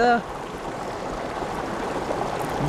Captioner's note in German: Plätschern, Rauschen